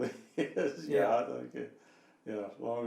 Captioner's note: laughing